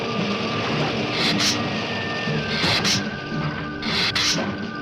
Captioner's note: lizard hissing